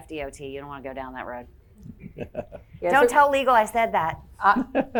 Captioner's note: chuckling